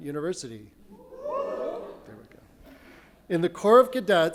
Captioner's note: audience cheers